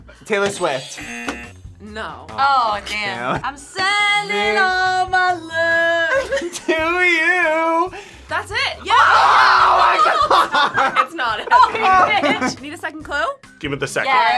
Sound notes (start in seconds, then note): 0.8 buzzer; 8.8 laughs